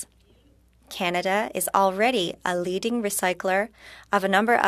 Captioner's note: speaking French